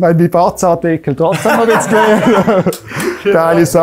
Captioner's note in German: lacht